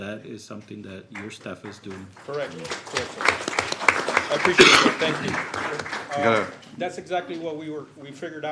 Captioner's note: applause